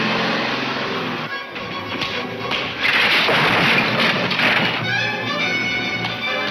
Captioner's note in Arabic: صفع